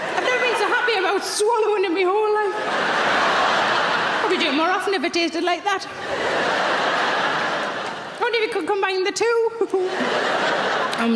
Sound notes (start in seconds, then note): 2.9 audience laughing; 6.5 audience laughing; 10.4 laughing